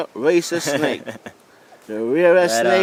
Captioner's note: laughter